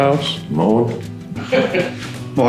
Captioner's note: laughs